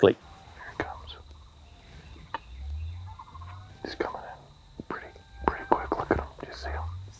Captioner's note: whispering